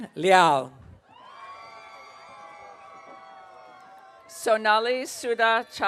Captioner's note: audience cheering